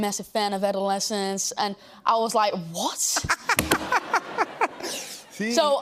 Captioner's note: laughs